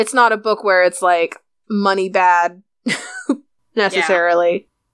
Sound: laughs

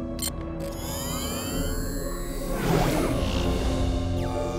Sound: beeps; whirring

